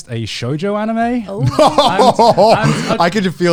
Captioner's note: guys laughing